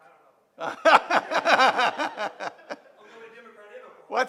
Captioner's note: laughing